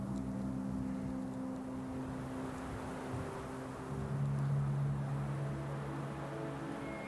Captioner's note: soft dramatic music; wind blows